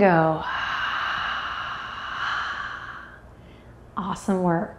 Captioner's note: deeply exhales